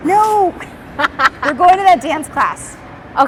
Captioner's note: laughing